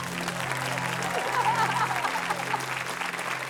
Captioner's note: laughter; cheering, applause